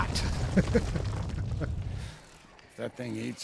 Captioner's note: laughs